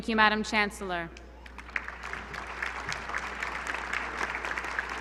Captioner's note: applause